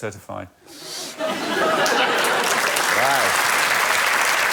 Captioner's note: laughter